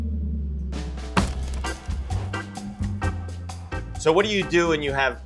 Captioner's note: bread thuds and cracks